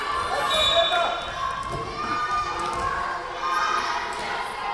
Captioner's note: whistle blowing